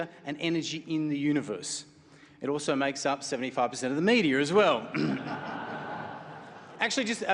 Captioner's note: clears throat; laughter